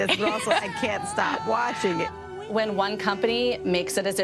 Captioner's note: anchor laughs